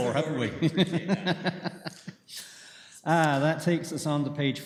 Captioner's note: laughter